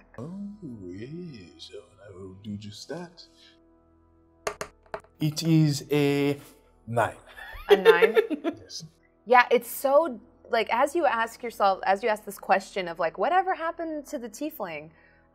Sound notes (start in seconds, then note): 4.4 dice thudding; 7.4 laughs